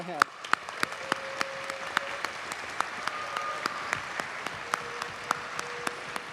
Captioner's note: audience cheers and applauds